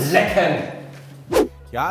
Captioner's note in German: woosh